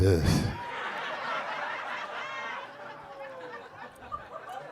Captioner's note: audience laughing